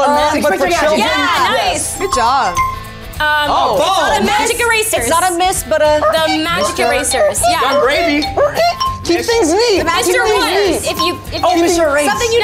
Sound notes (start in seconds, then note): 1.4 app chimes; 8.2 actors squeaking